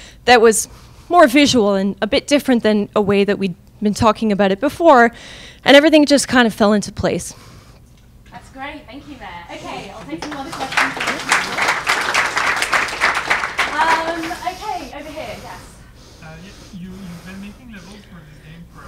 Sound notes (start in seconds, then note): 9.9 crowd clapping; 14.1 crowd